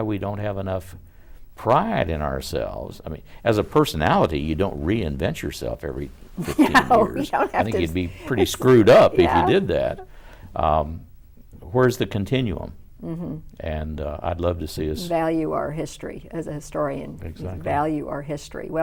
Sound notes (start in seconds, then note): 6.4 laughs